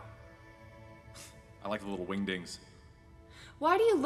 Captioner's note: snort